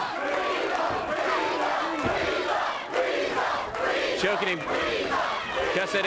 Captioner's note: crowd cheering